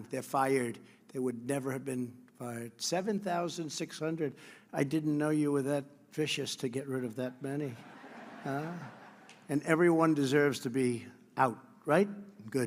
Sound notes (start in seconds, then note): 7.7 laughter